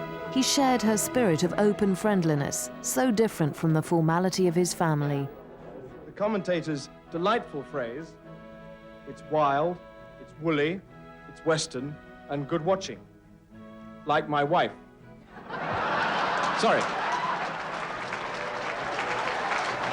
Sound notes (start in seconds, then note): 15.3 audience laughing; 15.4 audience applauding